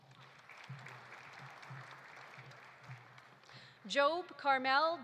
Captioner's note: audience applauding